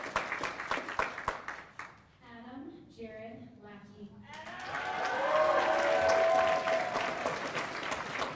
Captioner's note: cheers and applause